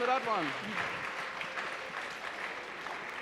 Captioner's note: applause